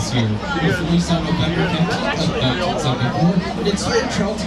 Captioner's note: people murmuring